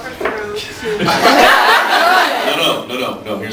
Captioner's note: laughs